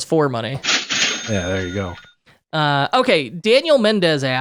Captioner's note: cash machine running